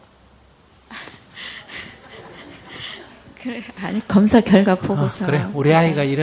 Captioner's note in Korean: 웃음